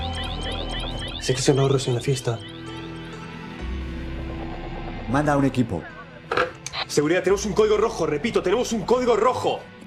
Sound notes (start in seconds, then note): 0.8 in Spanish